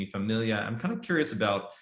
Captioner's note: speaking foreign language